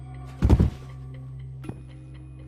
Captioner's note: thud